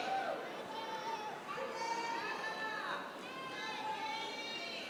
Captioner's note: yelling